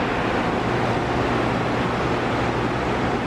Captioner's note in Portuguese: som de máquinas